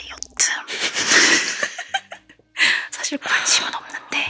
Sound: laughing

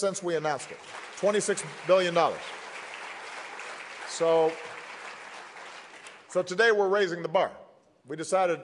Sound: applause

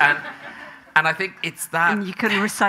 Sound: audience laughing

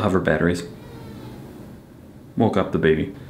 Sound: Ada cries

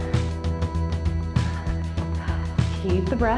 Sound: breathes

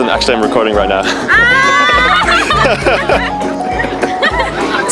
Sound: laughing

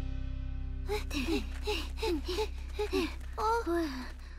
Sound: all panting

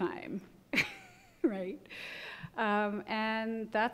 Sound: laughs

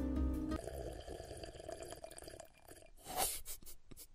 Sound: satisfying water slurp

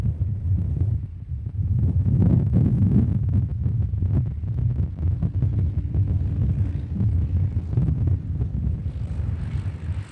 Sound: wind blowing

